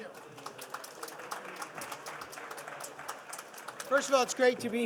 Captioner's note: participants applauding